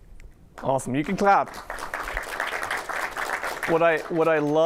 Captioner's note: applause